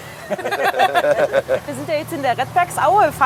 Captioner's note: laughter